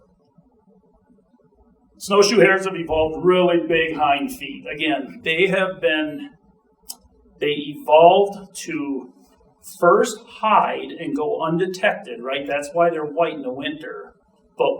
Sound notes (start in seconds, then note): none